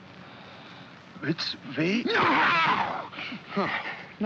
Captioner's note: Felix cries out